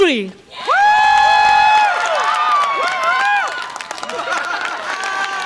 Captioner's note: audience applause and cheer